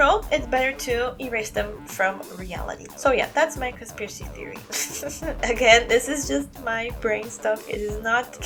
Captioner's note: chuckle